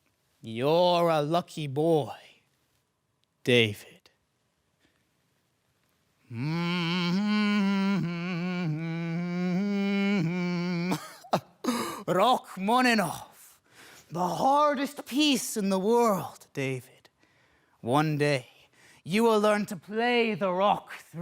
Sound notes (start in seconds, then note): 0.0 silence; 4.7 soft breathing; 6.2 humming; 13.6 soft sharp breath